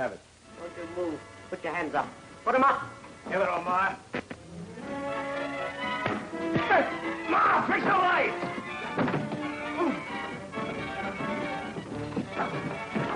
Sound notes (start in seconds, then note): 6.0 punches landing; 10.3 dramatic music